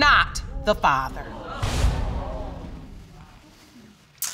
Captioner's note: audience exclaiming